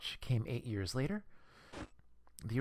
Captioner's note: static